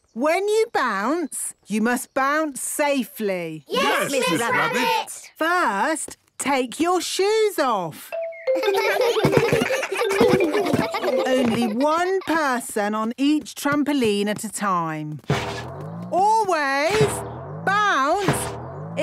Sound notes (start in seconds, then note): 8.5 giggles